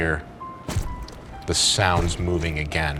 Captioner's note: squishy footsteps